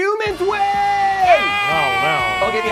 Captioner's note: cheers